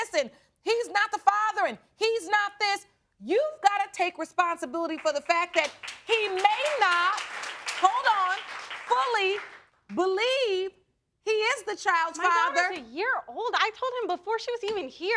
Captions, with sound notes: and he's not the father and he's not this, you've gotta take responsibility for the fact that he may not, (AUDIENCE APPLAUDING) hold on, fully believe he is the child's father... My daughter's a year old, I told him before she was even here.